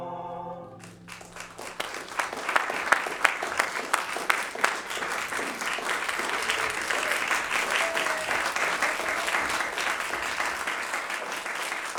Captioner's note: applause